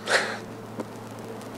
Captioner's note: laughs